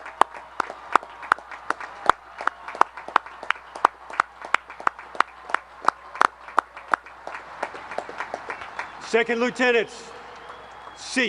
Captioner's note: applause; cheering